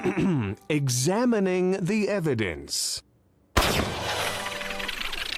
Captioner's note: gasps; narrator clears his throat